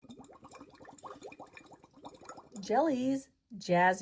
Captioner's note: water gurgles